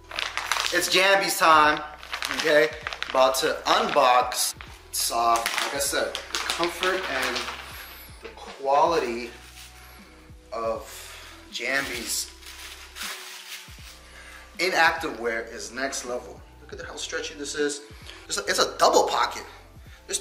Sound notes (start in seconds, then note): 0.0 package rustling; 11.7 packaging rustling